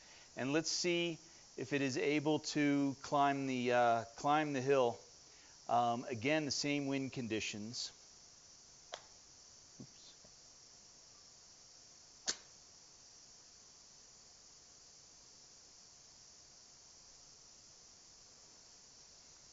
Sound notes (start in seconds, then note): 12.2 strikes match